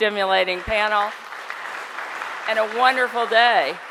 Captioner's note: applause